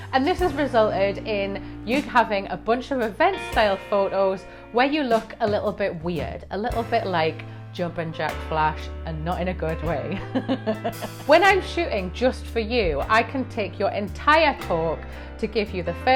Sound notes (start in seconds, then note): 10.3 laughs